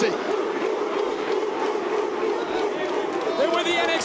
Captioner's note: crowd barks